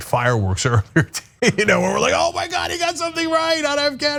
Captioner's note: laugh